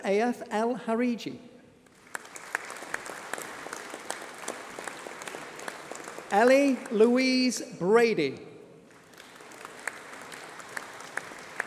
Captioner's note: applause